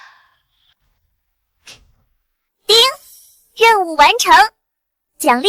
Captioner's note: pfft